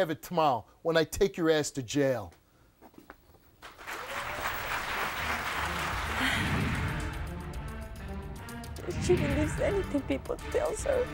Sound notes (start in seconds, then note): 3.6 audience applauding